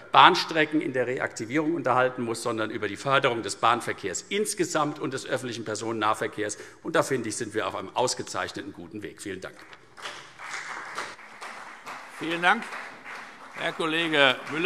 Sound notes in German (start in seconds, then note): 9.5 Beifall CDU und BÜNDNIS 90/DIE GRÜNEN